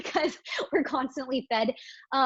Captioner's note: chuckles